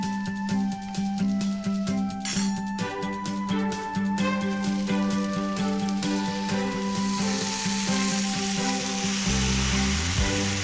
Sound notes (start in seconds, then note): 2.4 spoon clanks; 3.6 dish sizzles